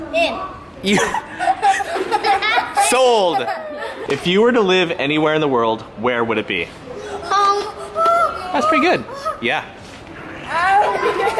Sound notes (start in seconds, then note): 0.8 children laughing